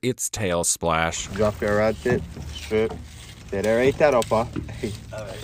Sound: faintly speaking

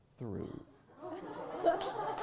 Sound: applause

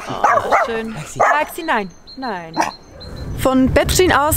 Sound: Baxy snorts; Baxy barks

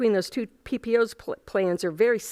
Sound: none

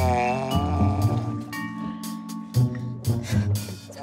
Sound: funky music; snoring

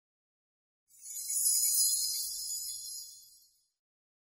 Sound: bells chime

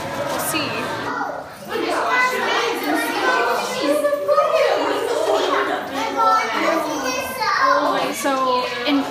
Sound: children exclaiming excitedly

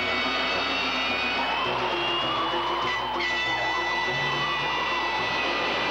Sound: tires screeching

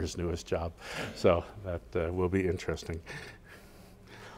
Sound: laugh

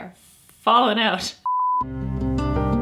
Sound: beep; soft music

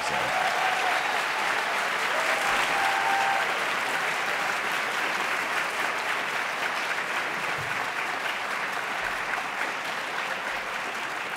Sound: applause

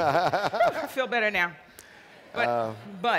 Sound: Henry laughs

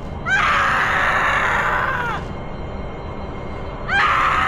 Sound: Sarah screams

